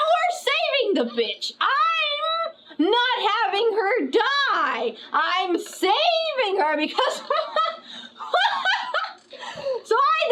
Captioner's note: laughs